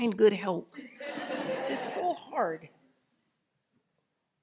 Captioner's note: audience laughing